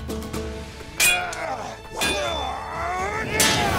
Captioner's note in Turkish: Kılıç sesleri